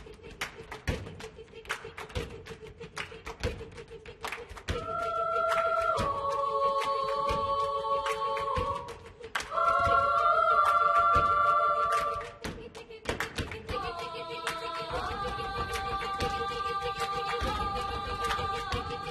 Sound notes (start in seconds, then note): 0.0 clapping; 8.2 clapping and stomping